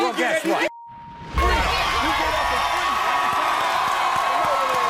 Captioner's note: audience cheering